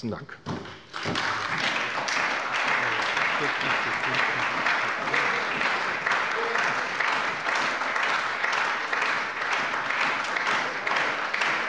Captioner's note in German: Anhaltender Beifall bei der SPD